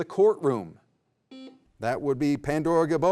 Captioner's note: beep